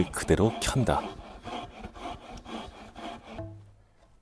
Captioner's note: sawing sound